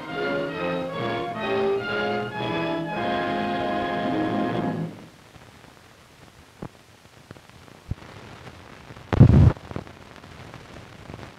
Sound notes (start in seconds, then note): 4.2 silence